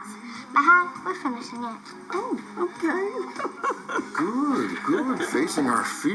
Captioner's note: laughs